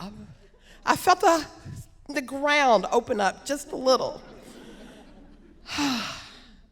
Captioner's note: sighs